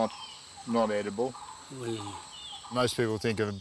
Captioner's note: man groans